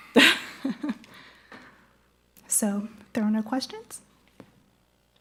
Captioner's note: laughs